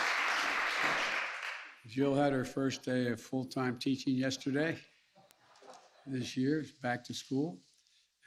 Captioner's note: applause